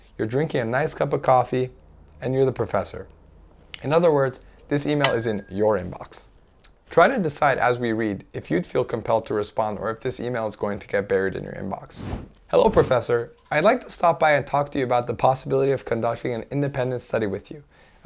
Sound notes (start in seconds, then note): 5.0 bell rings